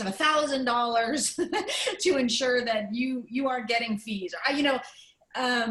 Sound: laughter

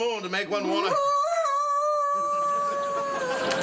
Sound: howling

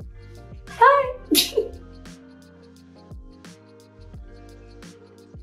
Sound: laughs

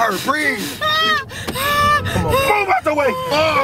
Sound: Renee screams

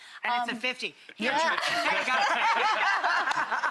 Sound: laughter

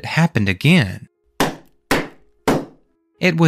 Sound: knocks

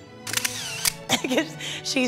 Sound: camera clicking

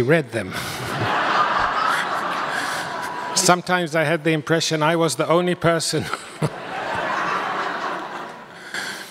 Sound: audience laughs

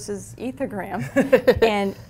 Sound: laughs

